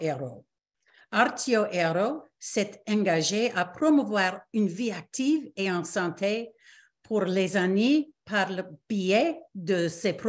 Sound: repeats in French

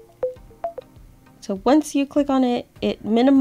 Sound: Be My Eyes app sounds

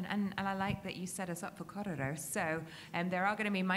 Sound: speaks in a foreign language

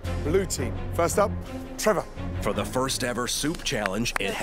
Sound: none

